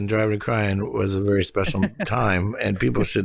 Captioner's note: laughs